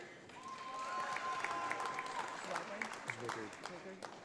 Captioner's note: audience applauds